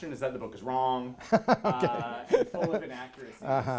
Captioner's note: laughs